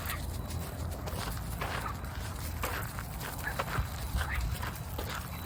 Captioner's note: sniff sniff sniff sniff sniff sniff sniff sniff